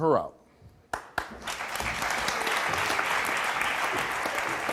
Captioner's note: audience applause